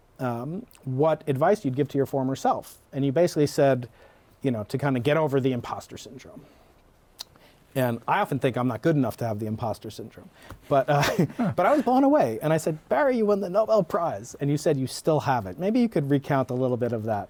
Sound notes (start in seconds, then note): 10.9 laughter